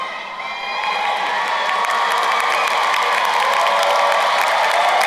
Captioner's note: crowd cheering and applauding